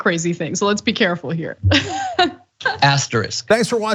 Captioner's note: laugh